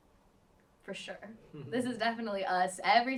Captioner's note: chuckles